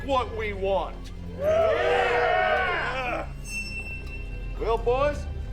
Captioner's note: gang cheering